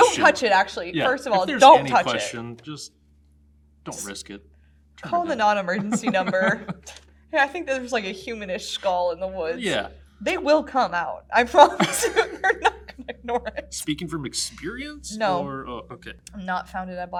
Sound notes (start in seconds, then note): 5.7 laughs; 11.4 laughs